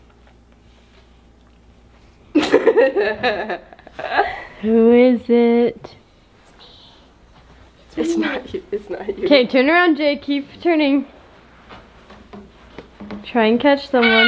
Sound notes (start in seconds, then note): 2.4 laughs; 7.1 whispering